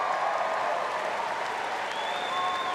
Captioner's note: applause